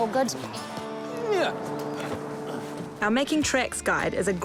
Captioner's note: grunts, strains